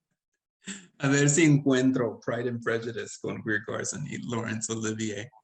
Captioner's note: speaking Spanish